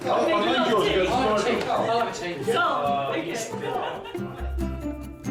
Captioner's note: all laughing; gentle upbeat music